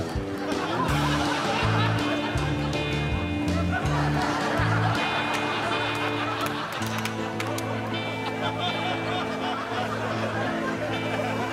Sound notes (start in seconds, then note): 1.0 laughing continues